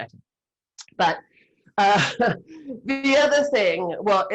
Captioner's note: laughs